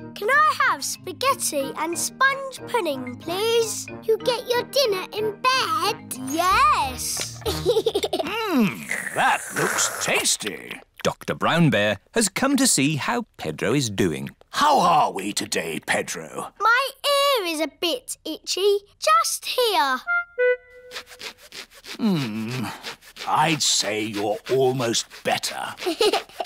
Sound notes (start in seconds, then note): 7.4 giggles